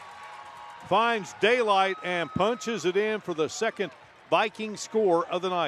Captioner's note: applause